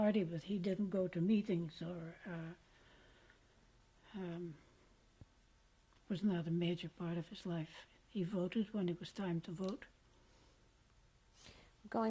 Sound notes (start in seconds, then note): 3.1 pauses for 3 seconds